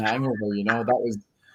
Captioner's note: laughs